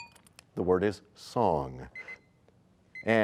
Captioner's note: bell rings, time expires